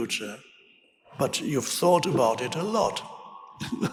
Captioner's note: laughing